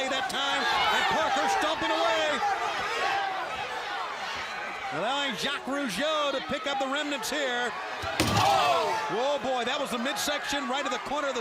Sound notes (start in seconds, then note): 2.9 crowd chatter